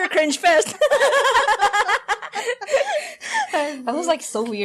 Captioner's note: more laughter